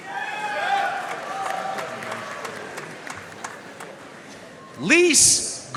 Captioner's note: audience cheering and applauding